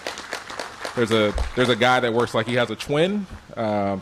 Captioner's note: applause